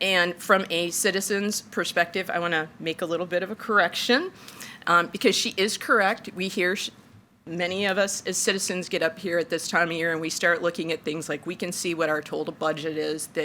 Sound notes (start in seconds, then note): none